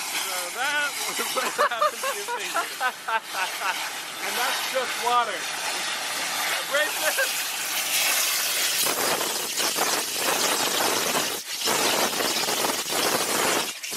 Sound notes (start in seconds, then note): 10.5 water blasting